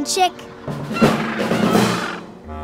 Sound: squawking

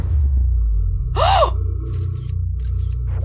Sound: gasp

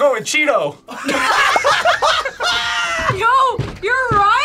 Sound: group laughs

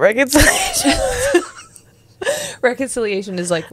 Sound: panel laughing

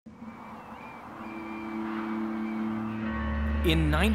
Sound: hard wind blows

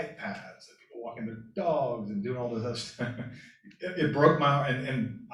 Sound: laughter

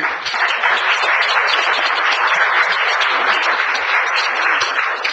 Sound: audience applauds

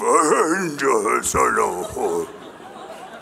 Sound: jabba the hutt sounds

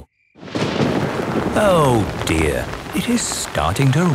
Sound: thunder rumbling

